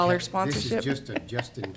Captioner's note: laughs